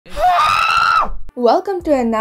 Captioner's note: viking's battle roar